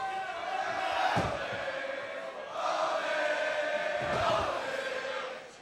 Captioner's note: crowd chants "Ole, ole ole ole"